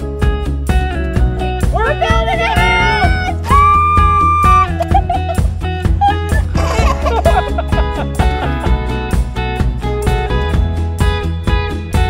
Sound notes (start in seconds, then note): 2.6 screams; 5.8 laughing; 9.4 upbeat music